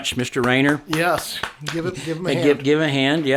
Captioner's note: hands clapping